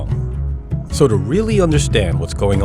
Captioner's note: soundbite of archived recording